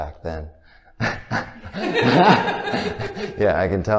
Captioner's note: both laughing